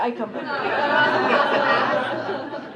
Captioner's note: laughter